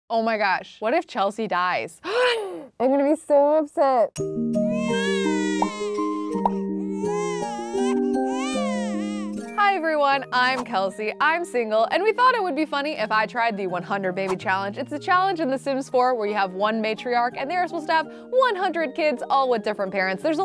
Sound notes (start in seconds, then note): 2.0 gasps; 6.2 baby crying